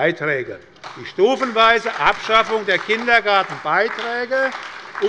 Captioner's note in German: Beifall bei der SPD